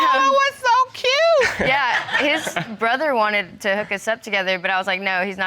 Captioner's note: chuckles